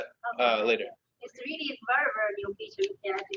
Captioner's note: talking